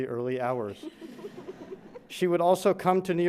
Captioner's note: grandchildren chuckles